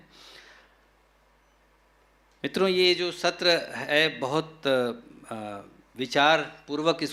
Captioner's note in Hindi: नाक से की जाने वाली आवाज़